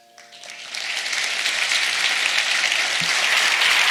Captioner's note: audience applauds